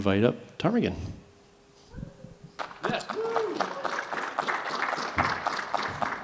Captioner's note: cheering, applause